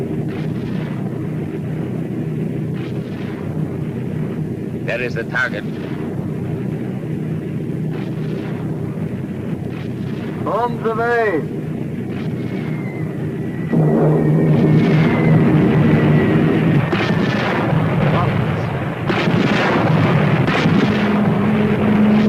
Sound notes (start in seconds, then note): 12.5 plane engines roaring; 13.7 missiles whooshing; 16.7 explosion booming; 19.0 cannons firing